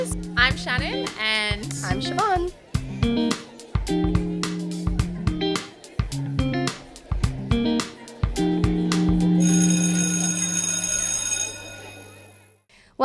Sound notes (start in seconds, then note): 2.9 people chattering; 2.9 upbeat music; 9.4 school bell rings